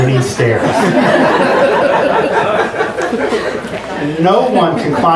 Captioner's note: audience laughs